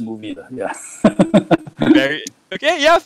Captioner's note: laughs